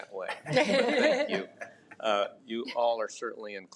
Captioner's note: trustees chuckles